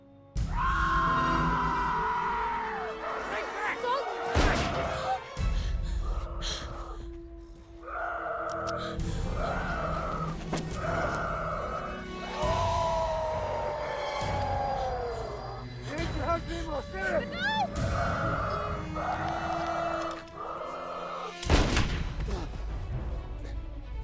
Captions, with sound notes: (Dalton screaming) (gun shooting) (Dalton screaming) - It made your husband an evil spirit. - No! (gun shooting)